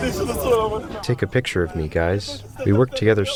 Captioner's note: through translator